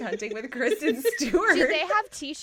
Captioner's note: laughter